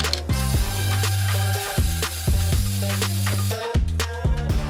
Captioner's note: graffiti sprays